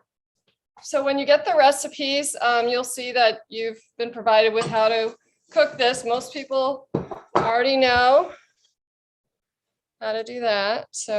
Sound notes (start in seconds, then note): none